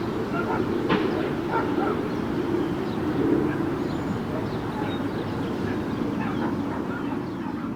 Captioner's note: birds chirping; dog barking